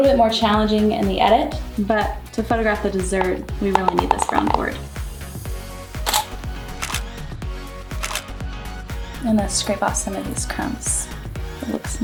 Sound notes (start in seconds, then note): 5.6 upbeat music; 6.0 camera shutters; 8.0 upbeat music